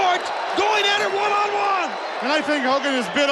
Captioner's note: audience cheering